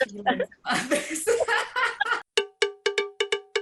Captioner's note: laughing